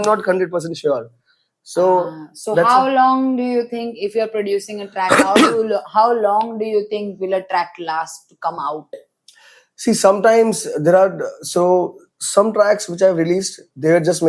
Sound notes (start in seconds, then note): 5.0 coughs